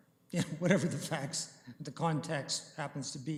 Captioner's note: chuckling